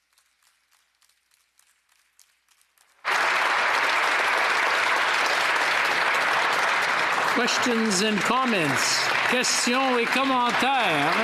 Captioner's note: applause